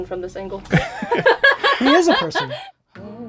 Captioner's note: laughing